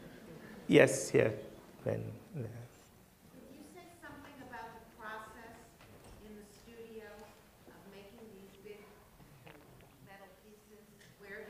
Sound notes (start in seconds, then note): 3.7 voiceover